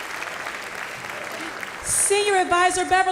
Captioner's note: applause